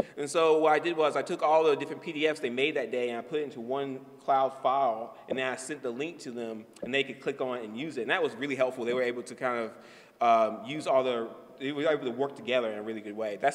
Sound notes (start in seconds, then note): none